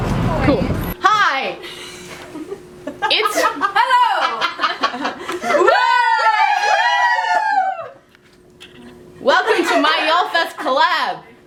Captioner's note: woos and laughter